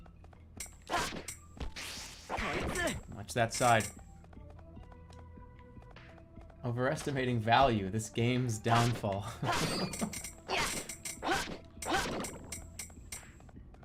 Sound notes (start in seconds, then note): 9.3 chuckles